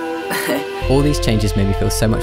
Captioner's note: laughs